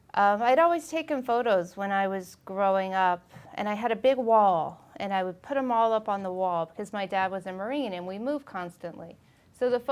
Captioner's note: none